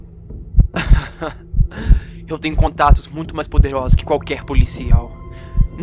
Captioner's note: laughs